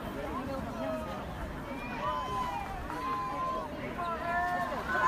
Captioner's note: crowd cheering